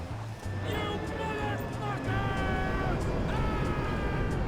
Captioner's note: Trevor screams